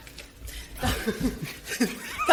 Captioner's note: laughter